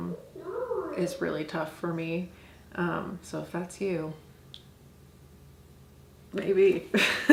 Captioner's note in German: lacht